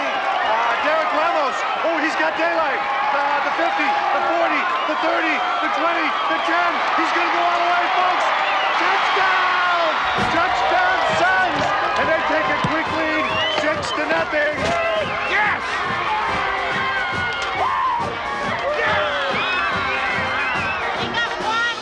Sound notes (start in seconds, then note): 13.0 crowd cheering; 13.0 upbeat music